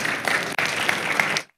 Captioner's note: audience applauding